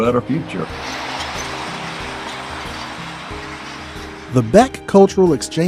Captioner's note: car drives